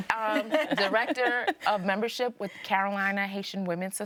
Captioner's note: people laugh